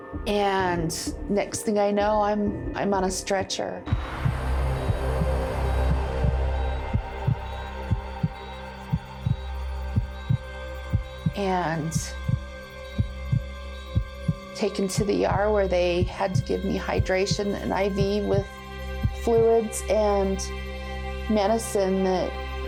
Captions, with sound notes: And next thing I know, I'm on a stretcher. (heart throbbing) (beep sounds) And taken to the ER where they had to give me hydration and IV with fluids and medicine that helped me sleep,